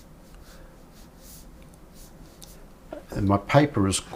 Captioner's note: silence